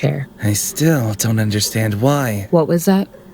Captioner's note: muttering